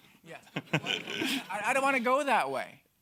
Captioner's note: laughs